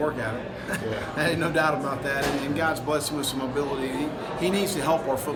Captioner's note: laugh